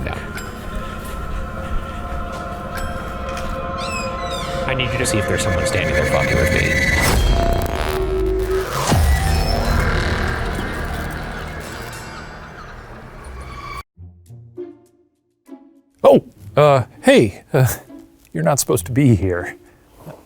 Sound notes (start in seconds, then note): 0.0 sighs; 0.3 bell dings; 0.3 singer chanting; 3.7 door creaks; 7.1 eyes buzzing; 7.1 tense music; 14.0 suspenseful music